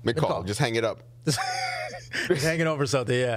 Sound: laughing

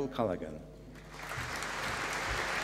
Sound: applause

